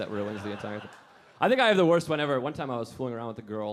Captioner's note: audience laughing